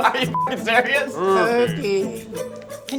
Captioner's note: beep